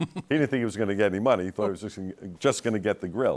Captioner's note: laughs